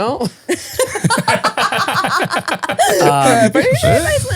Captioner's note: all laughing